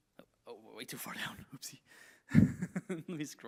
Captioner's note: laughs